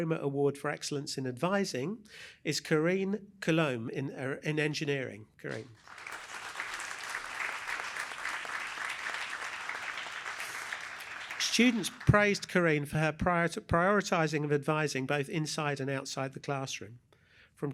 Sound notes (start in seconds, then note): 5.5 applause